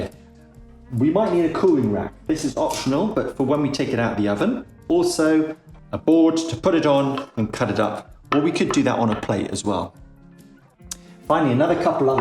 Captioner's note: cutting board